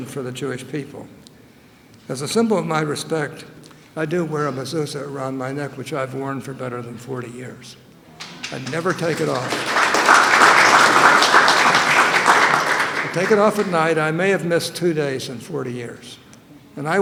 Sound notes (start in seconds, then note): 10.3 applause